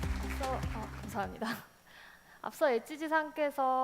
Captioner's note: applause; speaking korean